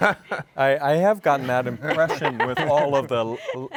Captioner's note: laughs